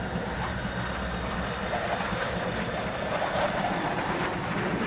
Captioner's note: aircraft whirring